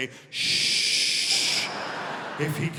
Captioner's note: audience laughing